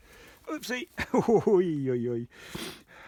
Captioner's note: laughs